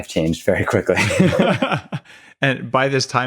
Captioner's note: both laughing